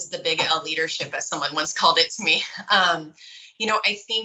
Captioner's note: giggles